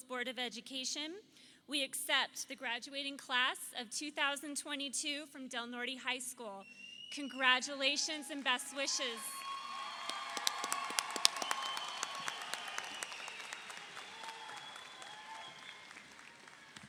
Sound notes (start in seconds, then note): 9.5 audience applauds; 9.5 audience cheers